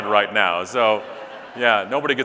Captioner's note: audience laughing